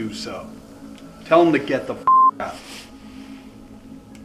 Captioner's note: beep